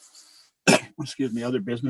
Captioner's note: coughs